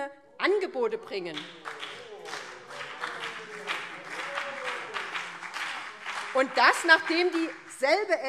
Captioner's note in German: Beifall BÜNDNIS 90/DIE GRÜNEN - Zurufe CDU und BÜNDNIS 90/DIE GRÜNEN: Oh!